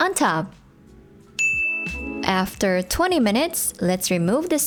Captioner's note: timer dings